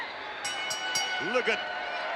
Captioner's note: bell rings